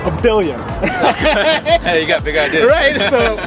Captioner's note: laughter